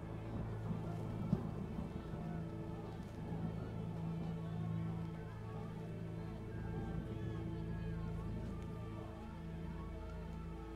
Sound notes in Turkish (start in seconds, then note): 3.6 Kalabalık bağrışma sesleri